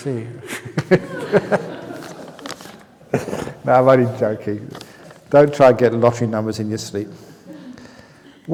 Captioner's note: laughs